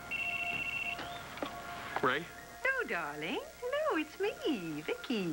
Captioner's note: phone rings